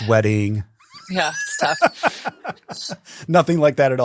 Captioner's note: laughs